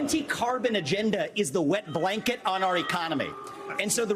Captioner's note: crowd booing